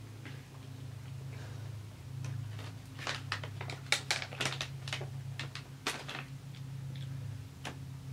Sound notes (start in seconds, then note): 2.9 bag crinkling